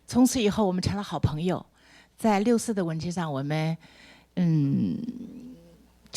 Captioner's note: speaks Mandarin